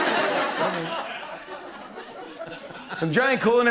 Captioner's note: laughter